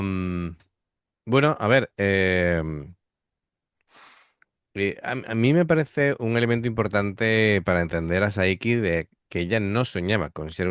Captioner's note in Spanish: resoplido